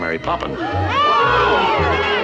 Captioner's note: crowd gasping